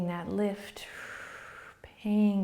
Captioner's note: exhaling